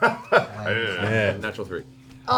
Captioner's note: all laugh